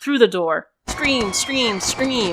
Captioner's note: screaming